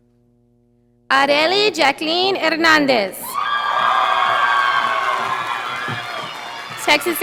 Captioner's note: audience applauding